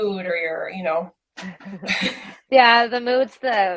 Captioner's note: both laugh